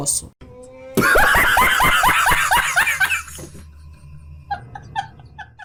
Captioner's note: laught